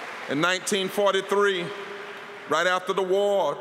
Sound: applause

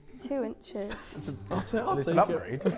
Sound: Sidemen laughing

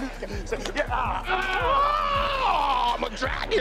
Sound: screaming

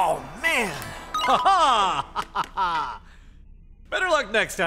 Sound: laughing

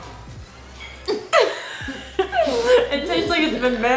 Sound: laughs

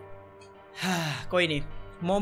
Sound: victory Sigh

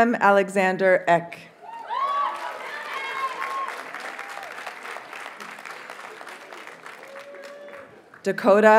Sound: audience cheers and applauds

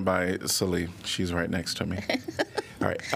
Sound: laughter

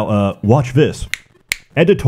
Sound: snap

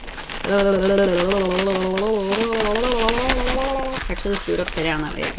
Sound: suspenseful nonsense noise

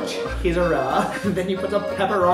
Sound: laughs

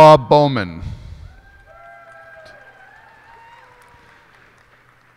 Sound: cheers and applause

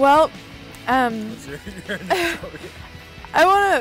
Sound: laughter

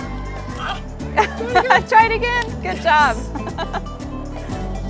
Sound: laughter

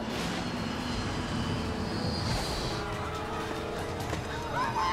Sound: engine whistling; quiet dramatic music

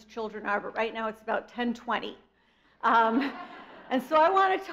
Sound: audience laughs

